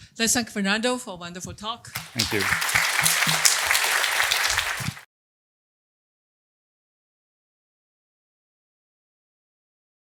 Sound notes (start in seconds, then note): 1.9 applause